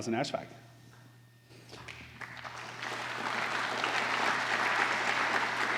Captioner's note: applause